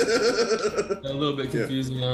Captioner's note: giggles